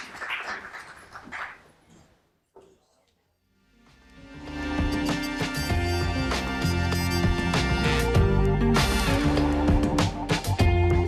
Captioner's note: applause